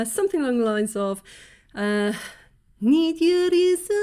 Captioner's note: deep breath